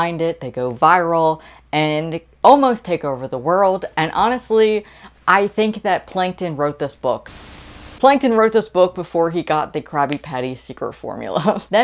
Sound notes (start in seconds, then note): 7.2 Static